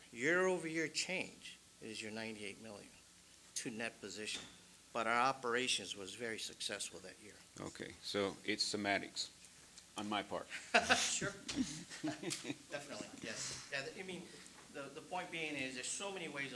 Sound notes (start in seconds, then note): 10.5 laughs